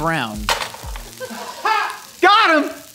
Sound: laughing

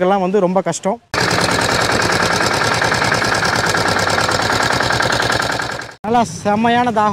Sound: machine noise

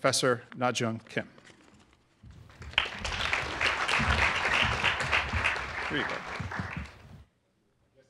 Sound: applause

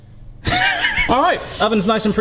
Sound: laughing

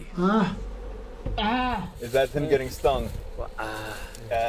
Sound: man yelping

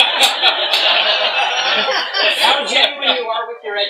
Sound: laughter

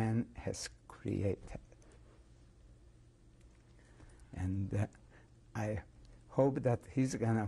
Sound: pauses for 3 seconds

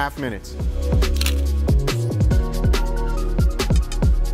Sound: shutter snaps

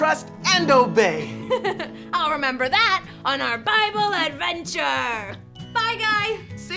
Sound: giggles

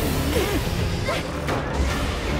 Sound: Sora grunts

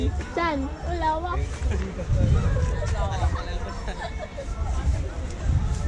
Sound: speaking foreign language

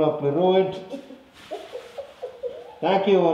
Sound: is laughing again

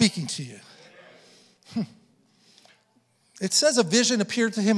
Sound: congregation affirming

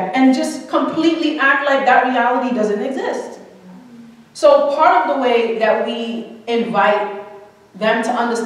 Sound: none

